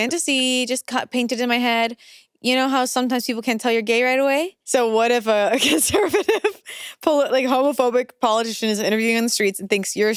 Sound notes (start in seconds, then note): 5.6 laughs